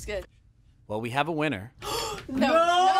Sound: gasps

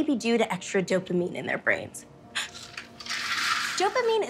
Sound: gasps

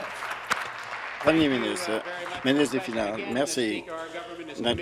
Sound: applause

